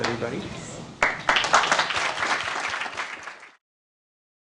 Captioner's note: applause